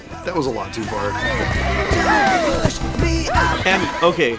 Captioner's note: triuphant laughing and whooping